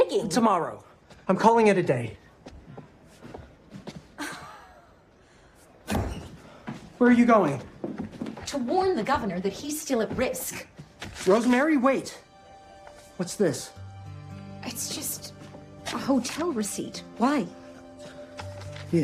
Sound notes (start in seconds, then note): 4.3 exasperated exhale